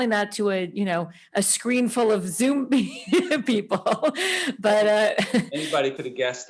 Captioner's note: laughing